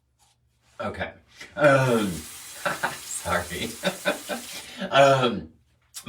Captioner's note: laughs